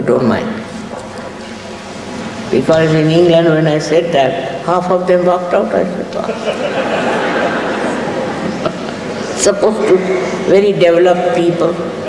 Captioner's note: laughter in the audience, also laughs